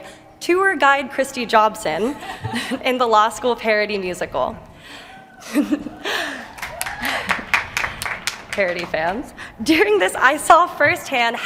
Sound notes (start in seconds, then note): 2.1 laughter; 5.4 laughter; 6.3 applause